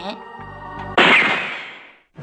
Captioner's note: bang!